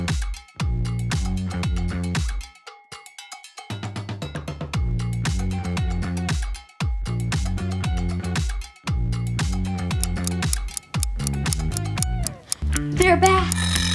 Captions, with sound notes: [clock ticking] They're back.